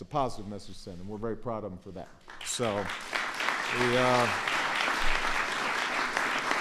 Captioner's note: applause